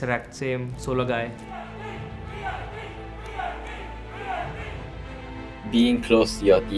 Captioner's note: audience Cheering